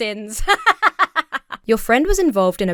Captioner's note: laughs heartily